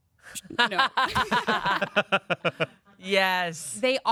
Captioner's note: laughing